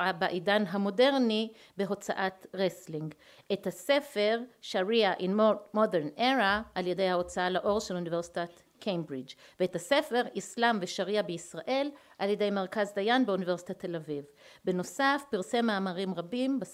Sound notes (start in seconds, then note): 4.6 אנגלית